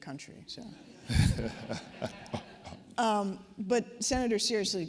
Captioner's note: laughter